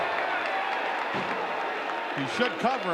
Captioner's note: audience cheering